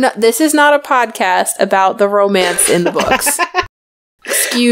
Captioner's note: laughs